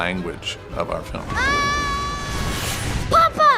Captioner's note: Pinocchio screaming